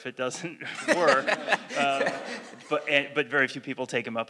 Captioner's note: laugh